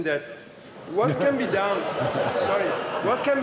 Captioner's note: laughter